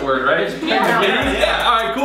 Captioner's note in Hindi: हंसते हुए